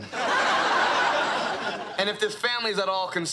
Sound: audience laughing

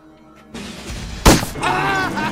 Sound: gunshot; ianto screams in pain

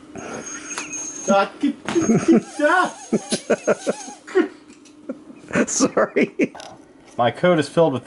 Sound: laughter

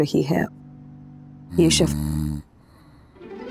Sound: snoring

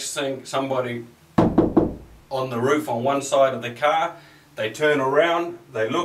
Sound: knocks

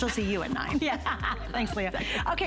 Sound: laughter

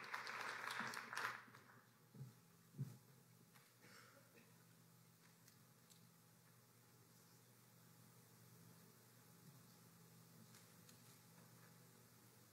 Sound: applause

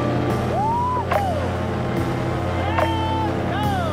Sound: man screams

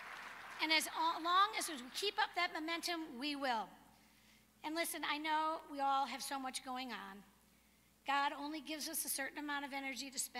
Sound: applause

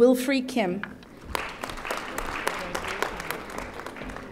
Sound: audience applauding

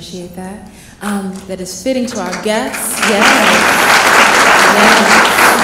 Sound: clapping

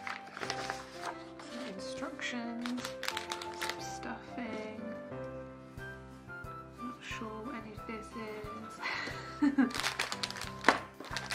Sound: laughs

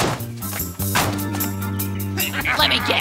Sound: doors bang

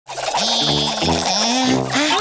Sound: groaning

